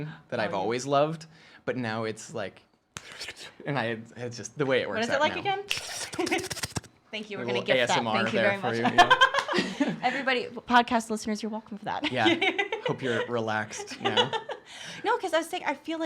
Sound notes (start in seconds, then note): 2.9 quick inhaling and snapping; 5.8 quick inhaling and tongue clicking; 8.7 laughter